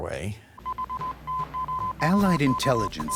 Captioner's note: beeping; voiceover